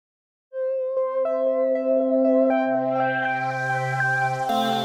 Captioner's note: bells chiming gently